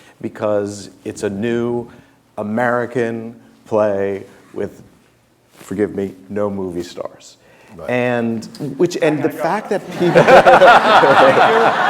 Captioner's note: laughter